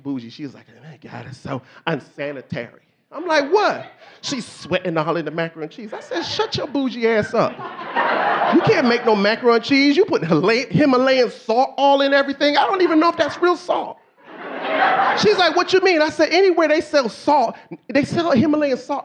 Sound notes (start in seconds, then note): 8.7 audience laughing; 14.2 audience laughing